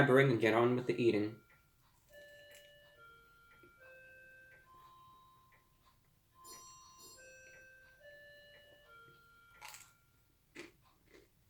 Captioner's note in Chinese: 电子钟响声